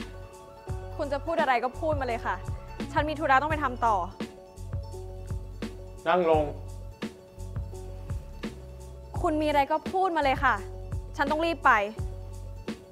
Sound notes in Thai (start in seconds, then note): none